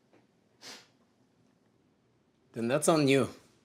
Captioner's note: Dawit huffs